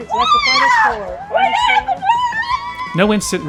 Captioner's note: cheering